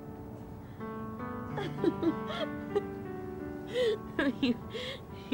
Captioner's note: Caroline laughing